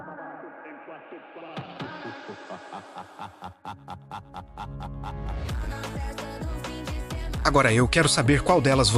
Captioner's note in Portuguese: risadas